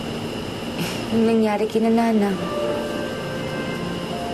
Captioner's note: exhales